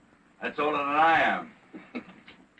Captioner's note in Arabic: ضحكات خافتة